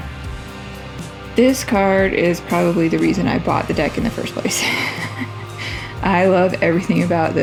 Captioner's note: laugh